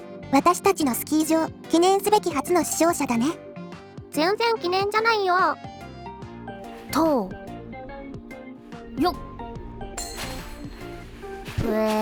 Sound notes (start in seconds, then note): 7.0 Kiritan noises